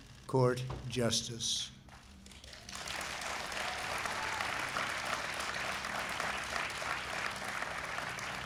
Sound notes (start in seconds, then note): 2.2 applause